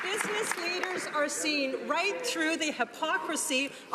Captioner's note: some Applause